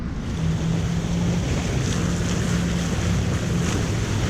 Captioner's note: yacht speeding